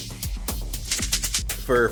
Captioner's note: rhythmic clicking